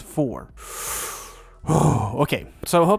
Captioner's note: big breath